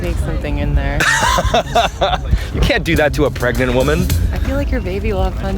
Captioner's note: laughs